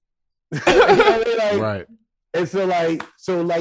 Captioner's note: laughing